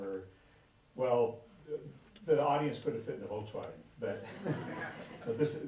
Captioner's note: laughter